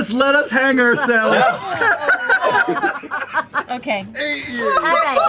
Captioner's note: laughter